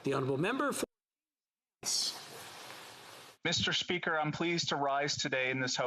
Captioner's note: speaking French